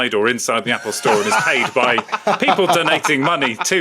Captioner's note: others laughing